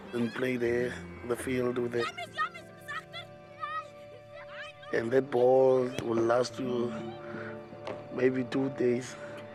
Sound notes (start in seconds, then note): 1.9 children shouting